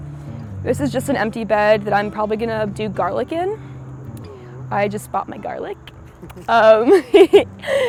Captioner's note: laughs